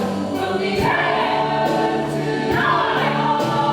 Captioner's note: shouted